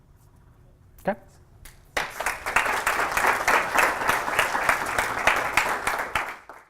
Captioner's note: applause